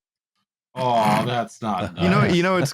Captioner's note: snorts, laughing